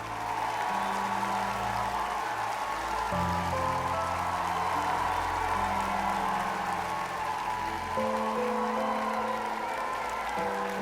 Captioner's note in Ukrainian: оплески